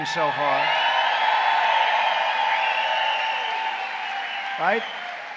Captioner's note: applause